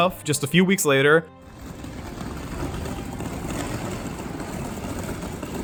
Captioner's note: sound of wheels rolling